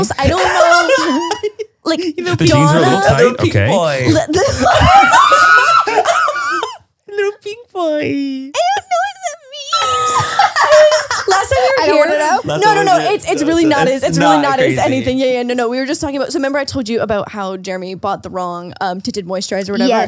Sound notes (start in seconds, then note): 0.2 Manny laughs; 4.2 everyone laughs; 9.9 everyone laughs